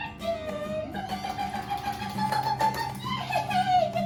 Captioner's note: babbling